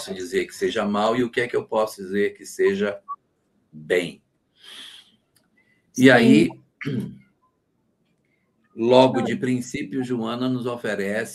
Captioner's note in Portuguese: limpando a garganta